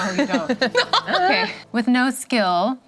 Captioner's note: laughing